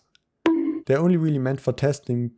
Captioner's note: bonk